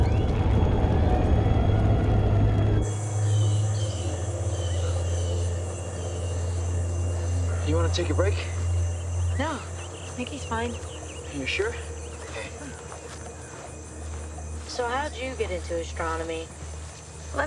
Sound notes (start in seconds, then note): 2.8 birds squawking